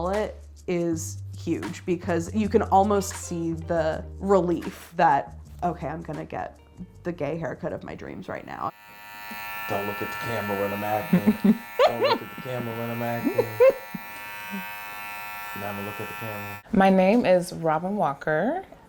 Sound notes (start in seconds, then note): 8.9 clippers buzzing; 11.0 laughs